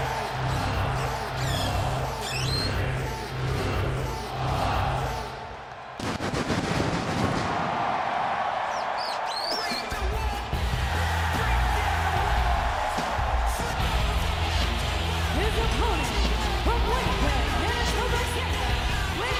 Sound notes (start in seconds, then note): 6.0 fireworks popping; 6.2 audience cheering